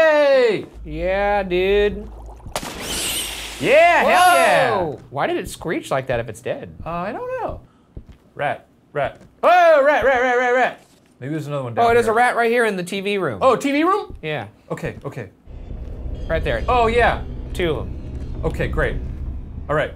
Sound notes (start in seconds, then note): 2.6 mouse screeches